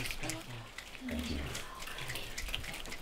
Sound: finger snaps

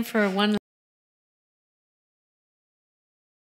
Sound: audio cut

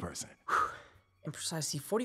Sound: exhale

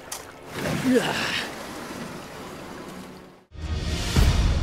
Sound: groans

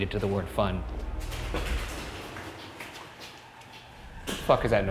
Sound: rustling sounds

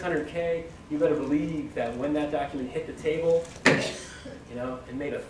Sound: thud

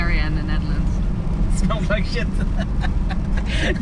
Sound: laughing

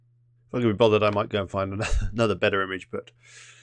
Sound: chuckles

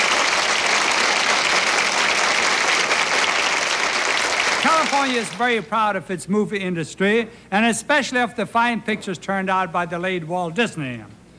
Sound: clapping

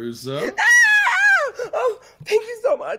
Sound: screaming

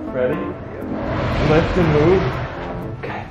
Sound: table dragging

